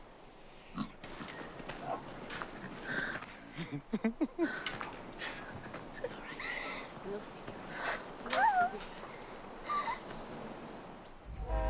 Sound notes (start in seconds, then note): 2.4 Lars laughing; 3.8 Aurora crying